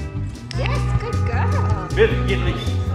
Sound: clicker clicking

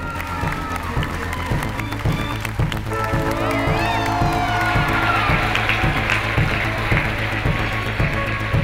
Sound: audience applauding

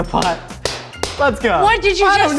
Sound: clapping

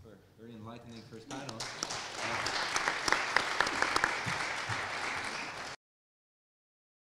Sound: applause

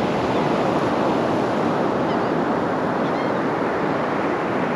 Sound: gulls calling

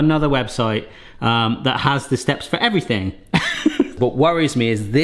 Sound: laughs

